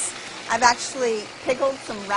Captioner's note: whirring